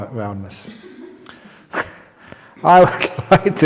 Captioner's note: laughs